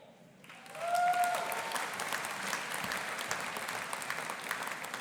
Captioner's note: audience applauding